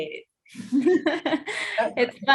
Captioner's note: laughing